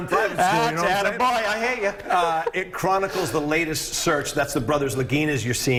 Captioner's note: laughter